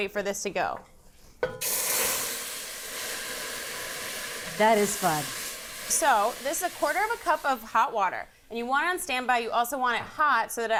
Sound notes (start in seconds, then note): 1.5 pot sizzles